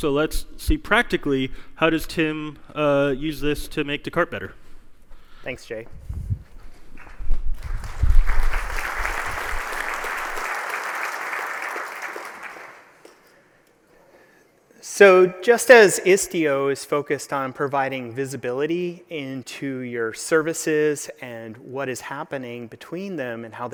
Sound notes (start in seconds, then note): 7.5 applause